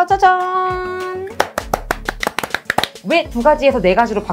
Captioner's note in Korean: 짝짝짝짝짝짝!